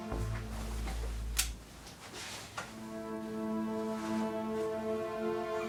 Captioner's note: door creaks; switch clicks